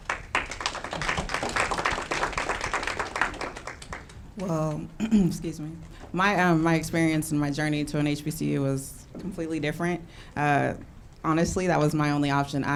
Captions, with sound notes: (audience clapping) Well, (clears throat) excuse me. My experience and my journey to an HBCU was completely different. Honestly, that was my only option.